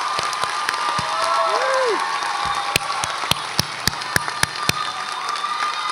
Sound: graduates applaud and cheer

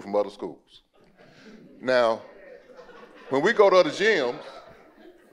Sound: audience murmuring and laughing

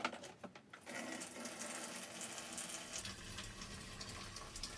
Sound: fluid drains

